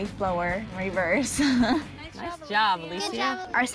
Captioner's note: laughs